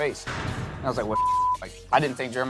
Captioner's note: beep